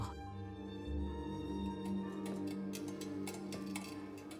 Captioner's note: bells chiming